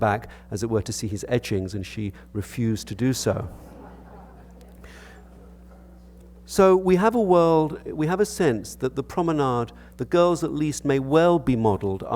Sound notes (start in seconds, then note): 3.5 audience laughter